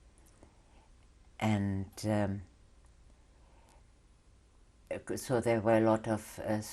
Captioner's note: pauses for 3 seconds